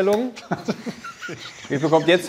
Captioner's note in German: Lachen